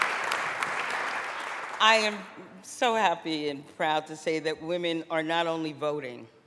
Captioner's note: applause